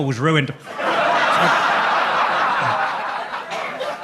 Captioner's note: audience laughs